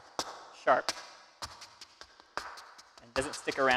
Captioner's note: shoes clacking